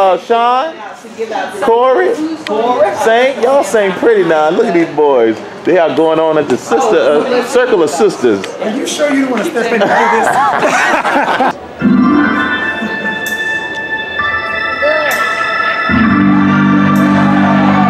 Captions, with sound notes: Shawn? Corey, Saint. Y'all sing pretty, now, look at these boys. They out going on at the Circle of Sisters. - Are you sure you don't want to step in front of this? (Performers laugh) (organ music)